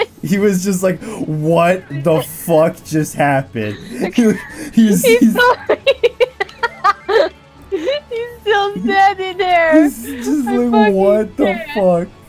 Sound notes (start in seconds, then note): 5.3 laughing